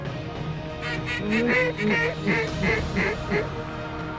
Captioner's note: duck calls